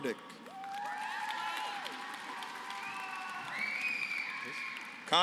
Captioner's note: applause